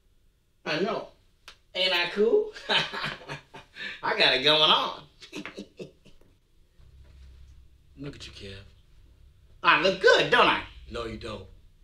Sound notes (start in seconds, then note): 5.2 laughing